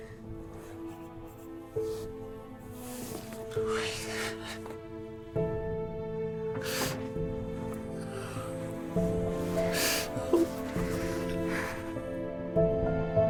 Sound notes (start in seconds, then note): 5.1 crying